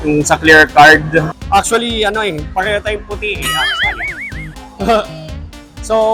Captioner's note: chuckles